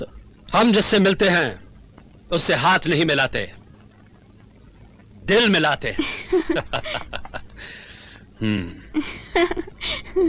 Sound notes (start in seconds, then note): 5.9 laughing